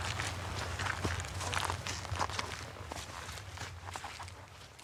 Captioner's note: footsteps